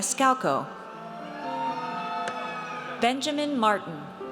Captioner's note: audience cheers